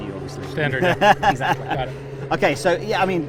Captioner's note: laughing